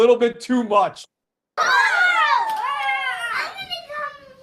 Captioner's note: screaming